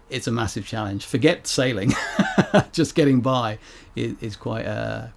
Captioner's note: laughs